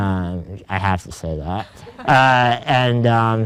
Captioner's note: group laughs